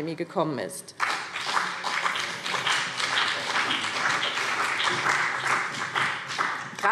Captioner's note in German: Beifall BÜNDNIS 90/DIE GRÜNEN und CDU